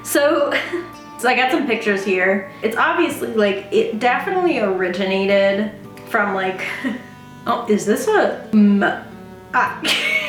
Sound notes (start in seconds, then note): 6.4 stammers; 8.1 stammers, laughs